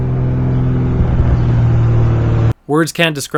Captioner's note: sound of overhead spotter plane